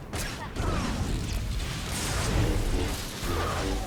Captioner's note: gunfire